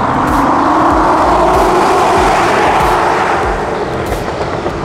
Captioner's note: engine roaring